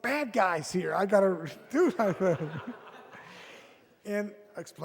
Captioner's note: audience laughs